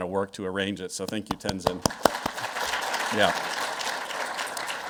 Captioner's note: all clapping